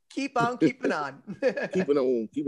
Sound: chuckles

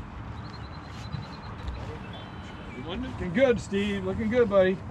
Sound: birds chirping

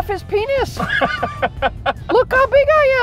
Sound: laughter

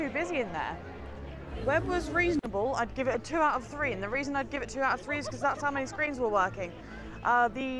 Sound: laughs

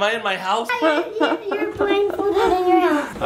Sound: laughing

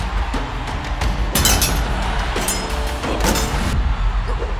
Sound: swords clanking

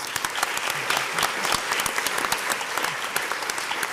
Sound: crowd applauds

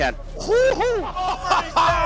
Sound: laughing

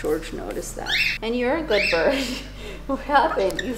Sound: laughs

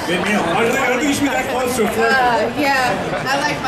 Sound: audience chattering

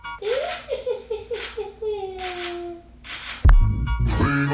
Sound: woman laughing; upbeat music

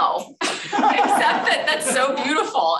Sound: laughter

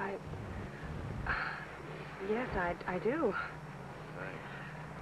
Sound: sighs

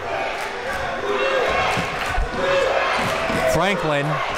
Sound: crowd

